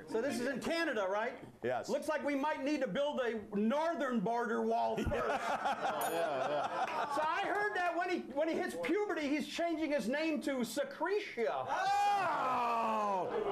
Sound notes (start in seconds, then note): 5.0 laughter; 6.0 bell Rings